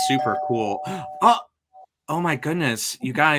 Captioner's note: doorbell rings